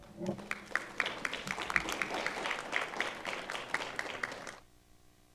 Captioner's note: audience applauding